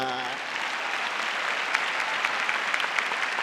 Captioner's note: applause